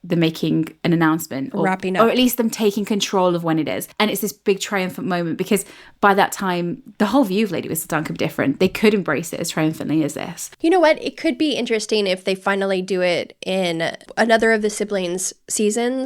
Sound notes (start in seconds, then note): none